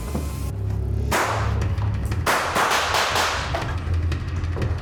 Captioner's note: gunshots